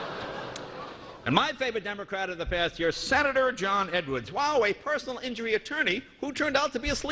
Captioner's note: laughter